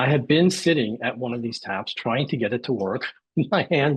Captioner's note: laughs